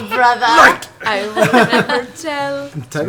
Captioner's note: laughs; sing-song